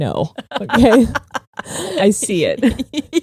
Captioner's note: laughing